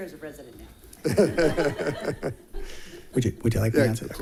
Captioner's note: all laughing